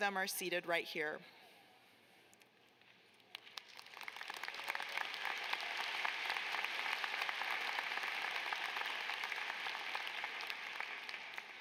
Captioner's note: applause